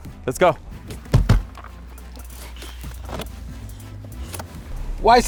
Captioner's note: doors slamming